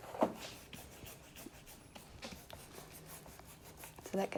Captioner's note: brush Scratching